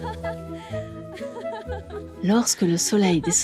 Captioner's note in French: rires